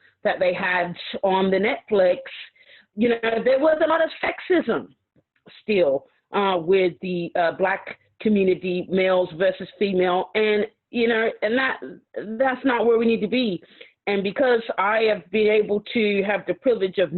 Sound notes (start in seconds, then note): none